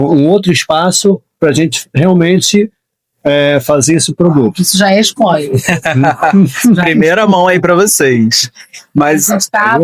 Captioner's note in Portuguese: risadas